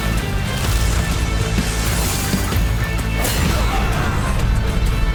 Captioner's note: enemies groaning; sword slashing